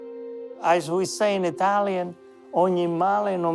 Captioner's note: speaking Italian